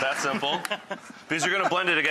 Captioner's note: laughing